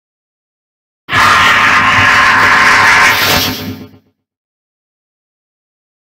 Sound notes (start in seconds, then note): 1.1 sound of robot